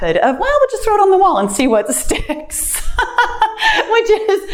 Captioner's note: laughs